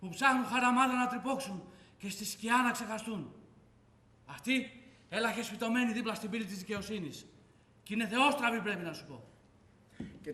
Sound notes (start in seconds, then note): none